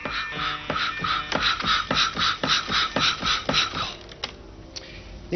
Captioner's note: machine spinning